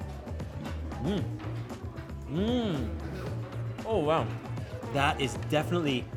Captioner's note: moans